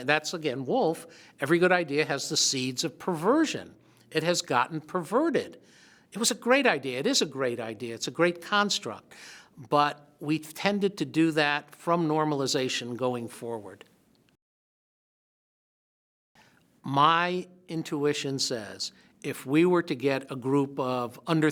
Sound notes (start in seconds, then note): 14.5 silence